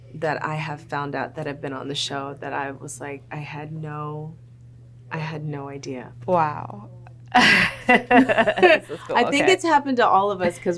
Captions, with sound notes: that I have found out that have been on the show that I was like, I had no, I had no idea. - Wow. (laughter) - I think it's happened to all of us